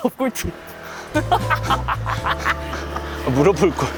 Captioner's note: mocking